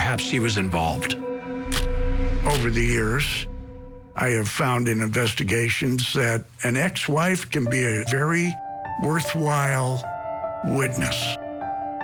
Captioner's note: camera shutter clicks